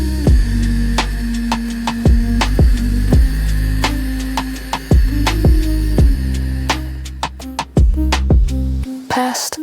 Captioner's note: heartbeat slows down, irregular